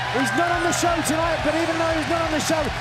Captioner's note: cheers and applause